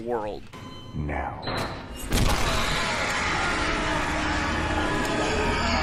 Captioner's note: screaming